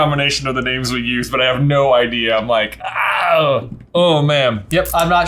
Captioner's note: groaning